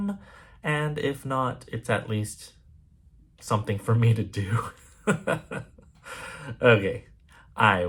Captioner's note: chuckles